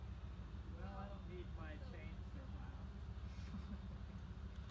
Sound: chortle

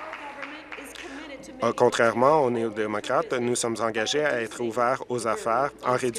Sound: applause

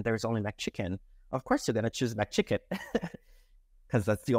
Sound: laughs

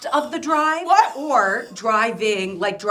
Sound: laughing

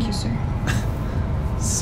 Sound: chuckle

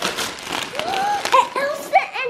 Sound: gasps

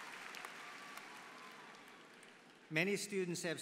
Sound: applause

